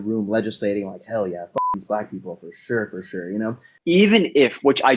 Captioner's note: beep